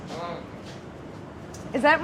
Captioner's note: grunts